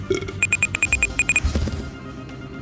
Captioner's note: burp; beeping of the respawn apparatus; respawning sounds